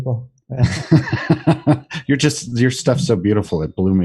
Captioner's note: laughs